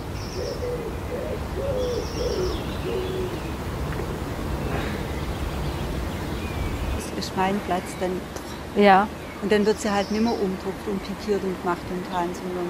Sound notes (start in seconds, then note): 1.4 screech owl